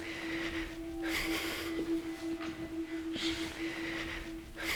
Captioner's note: heavy breathing